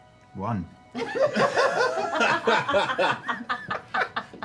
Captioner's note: laughter